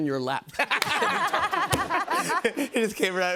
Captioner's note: laughter